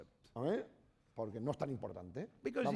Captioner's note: speaking spanish